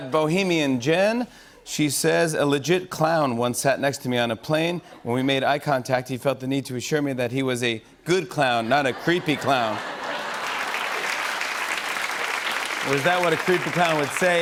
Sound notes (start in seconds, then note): 8.7 laughter and applause